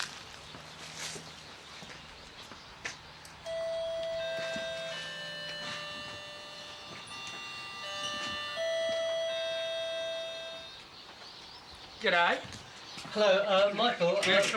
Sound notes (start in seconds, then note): 0.3 birds chirping; 3.4 doorbell chiming